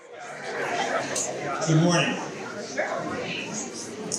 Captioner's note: people chattering